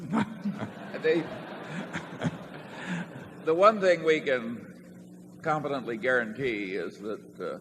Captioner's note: laughter